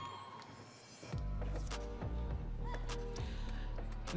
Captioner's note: audience cheering